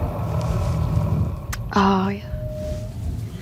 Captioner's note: Demogorgon growling